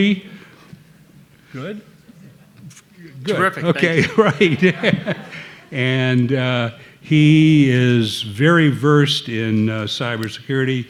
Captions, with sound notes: Good? - Terrific, thank you. - Okay, (laughing) right. (laughing) (audience laughing) And he is very versed in cybersecurity,